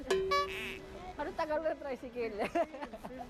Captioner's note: laughs